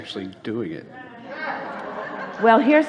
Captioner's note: audience laughs